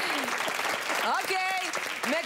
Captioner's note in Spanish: Aplausos